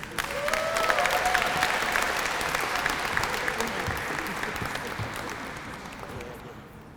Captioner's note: applause